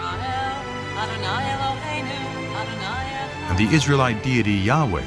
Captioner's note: chanting in Hebrew